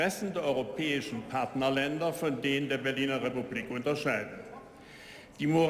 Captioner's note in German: none